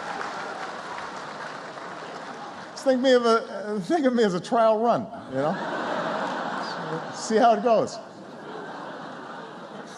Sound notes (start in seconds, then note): 8.2 laughter